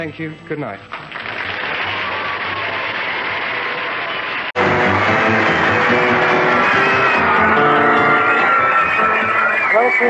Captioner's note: cheers and applause